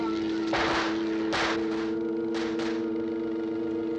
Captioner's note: gun firing